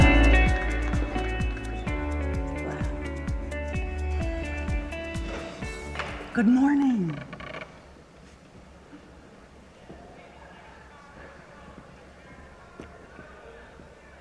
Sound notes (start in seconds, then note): 8.1 audience chattering